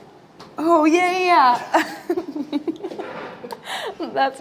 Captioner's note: laughing